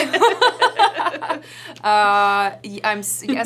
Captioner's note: laughter